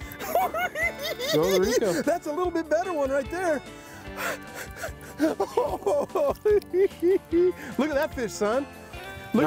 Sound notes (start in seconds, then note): 0.2 cackling; 5.6 chuckles